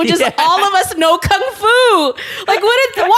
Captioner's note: laughs